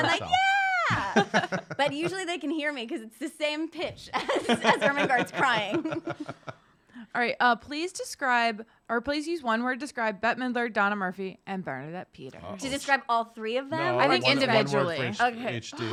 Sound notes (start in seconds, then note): 5.8 laughing